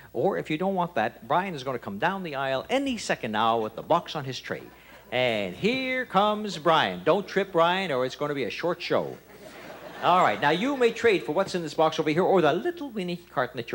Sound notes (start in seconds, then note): 9.0 audience laughter